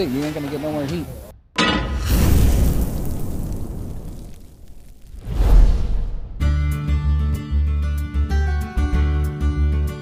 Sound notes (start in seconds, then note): 1.6 pan clanks; 1.9 fire whooshes; 6.8 gentle guitar music